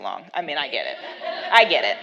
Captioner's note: laughs